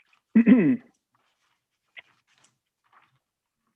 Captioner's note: clears throat